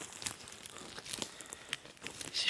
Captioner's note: rustles